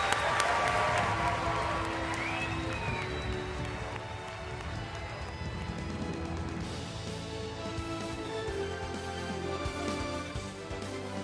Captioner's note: applause